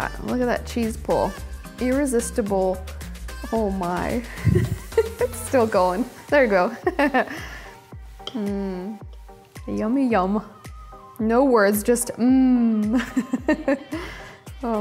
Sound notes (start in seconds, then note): 4.3 laughs; 13.0 laughs